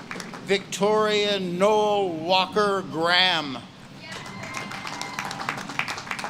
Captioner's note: audience claps and cheers